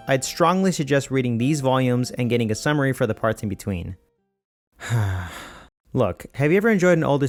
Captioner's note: sigh